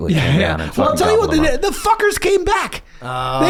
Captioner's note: laughs